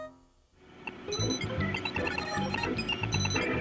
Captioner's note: video game beeping